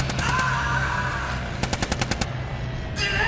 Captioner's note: screams; gun fire; screams